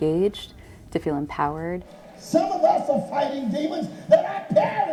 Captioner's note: voiceover